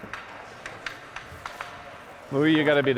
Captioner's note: hockey sticks rattling